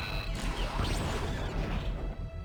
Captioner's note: explosion